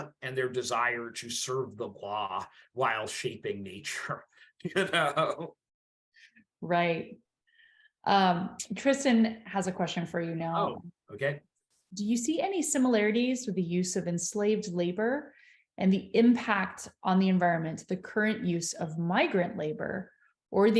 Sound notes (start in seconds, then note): 4.6 chuckles